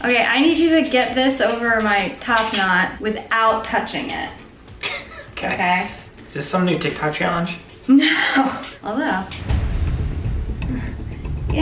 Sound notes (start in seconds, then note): 4.8 chuckles; 8.5 suspenseful music